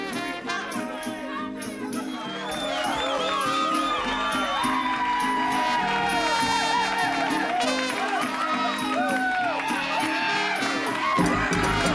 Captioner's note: crowd cheering